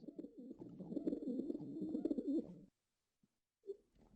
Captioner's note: the sounds of pigeons